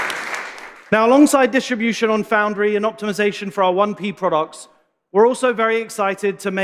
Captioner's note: applause